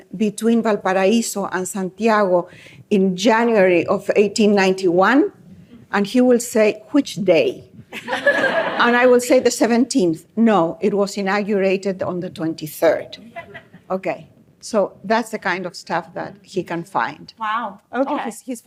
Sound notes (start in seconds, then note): 7.9 laughter